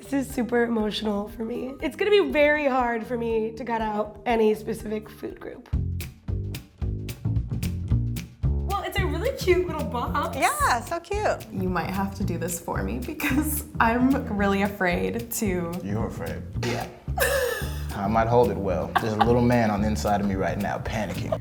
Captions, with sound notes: - This is super emotional for me. It's gonna be very hard for me to cut out any specific food group. (upbeat music) Well it's a really cute little box. - Yeah, so cute. - You might have to do this for me because I'm really afraid to, - You're afraid? - Yeah. (laughs) - I might hold it well, there's a little man on the inside of me right now panicking.